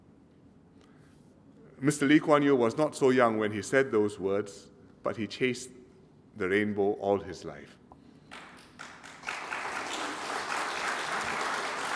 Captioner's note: applause